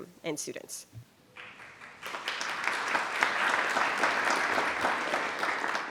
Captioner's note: attendees applauding